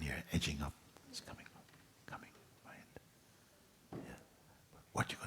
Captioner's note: Mooji whispers